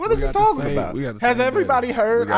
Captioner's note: murmurs